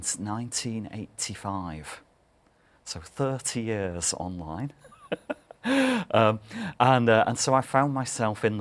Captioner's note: laugh